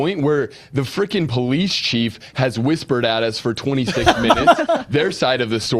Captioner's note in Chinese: 笑声